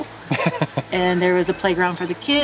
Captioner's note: laughing